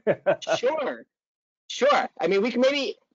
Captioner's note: hearty laughing